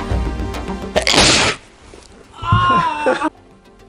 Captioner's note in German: Aus dem Off: Aaaahhh